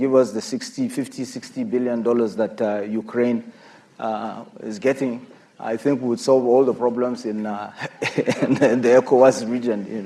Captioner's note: laughter